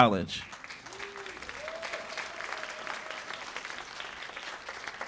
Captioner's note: cheers and applause